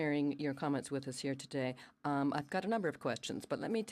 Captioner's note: speaking french